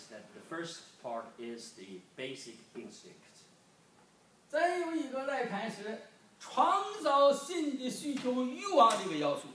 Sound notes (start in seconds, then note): 4.7 speaking foreign language